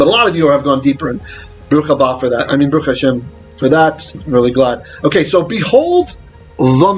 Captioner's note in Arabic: بالعبرية